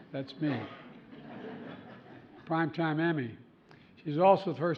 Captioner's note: laughter